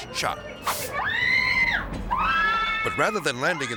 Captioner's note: catcher screaming